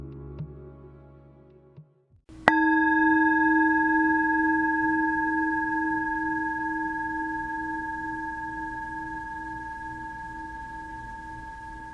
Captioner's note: chime